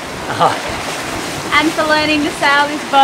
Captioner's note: laughs